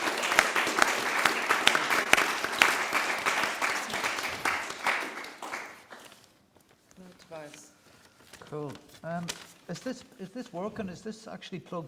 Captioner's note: applause